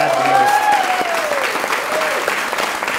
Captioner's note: clapping